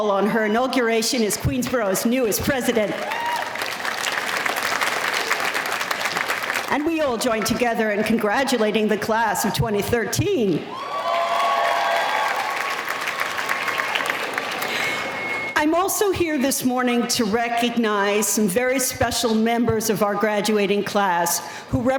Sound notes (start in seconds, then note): 2.6 applause; 10.6 audience cheering